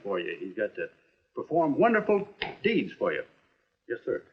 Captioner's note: none